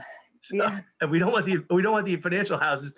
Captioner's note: sighs